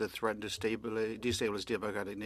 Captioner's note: speaking French